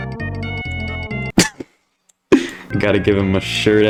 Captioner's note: cackles